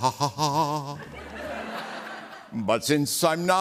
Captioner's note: laughter